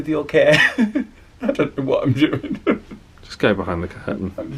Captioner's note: chuckles